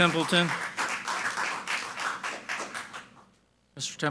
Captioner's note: people clapping